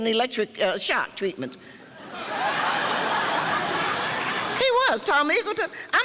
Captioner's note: laughing